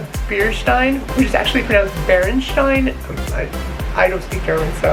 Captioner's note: speaks German